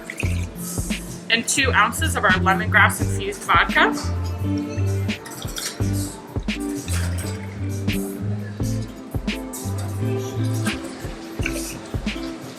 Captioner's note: pouring; pouring